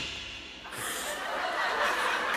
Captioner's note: exhales sharply; audience laughter